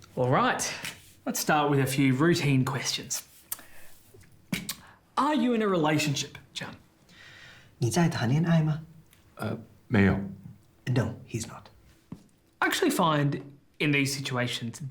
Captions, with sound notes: All right, let's start with a few routine questions. Are you in a relationship, Jian? (Calvin speaks in Mandarin) (Jian speaks in Mandarin) - No, he's not. - I actually find in these situations